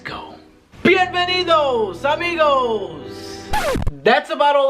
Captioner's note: speaking foreign language